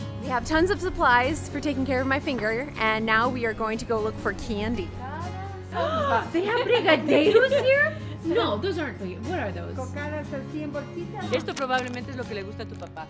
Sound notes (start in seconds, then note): 5.8 gasps; 10.3 in Spanish